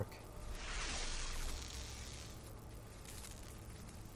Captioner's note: zapping